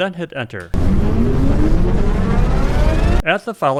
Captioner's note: turbine sound effect